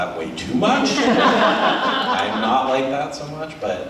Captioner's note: audience laughs